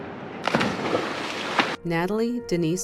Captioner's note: splashes into the water